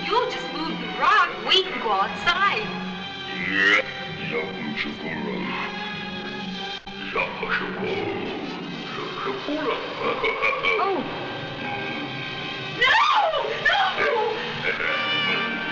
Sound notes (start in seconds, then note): 3.6 speaking in a foreign language; 8.9 laughing